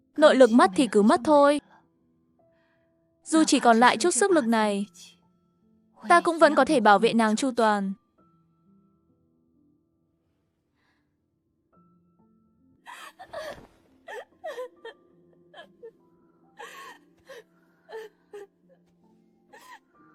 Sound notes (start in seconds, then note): 14.0 cry